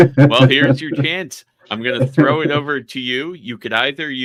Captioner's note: chuckling